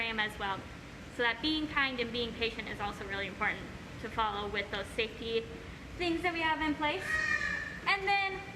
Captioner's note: bird squawk